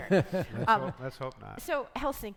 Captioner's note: panelists laughing